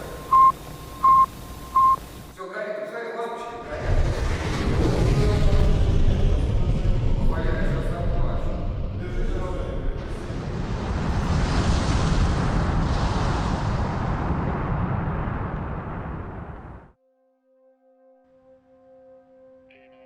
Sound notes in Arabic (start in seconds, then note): 3.6 المحركات تزأر; 7.2 تستمر الأصوات في الحديث باللغة الأجنبية; 17.3 موسيقى متوترة